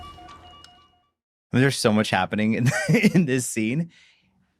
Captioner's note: laughs